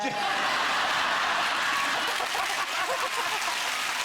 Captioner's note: all laughing